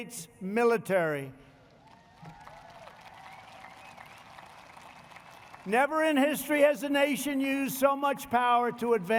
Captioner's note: applause